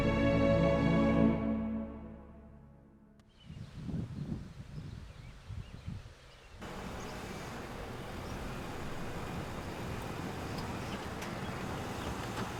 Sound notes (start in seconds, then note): 4.0 birds chirping